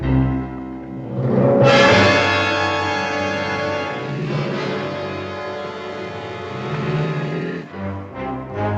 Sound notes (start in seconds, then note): 5.2 growling